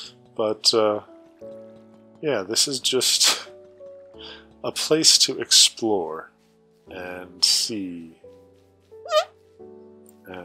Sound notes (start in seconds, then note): 9.0 squeak